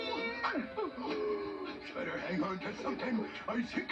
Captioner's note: gasps